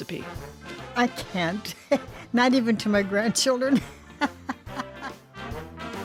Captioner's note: laughing